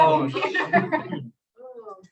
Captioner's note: laughter